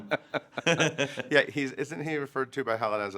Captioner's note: both laughing